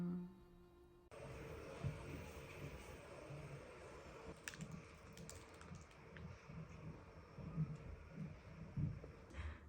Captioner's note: continued vacuuming